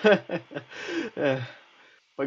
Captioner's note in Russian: вздох